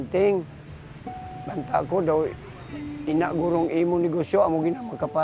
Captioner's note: speaks in local dialect